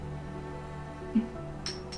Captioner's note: affirmative noise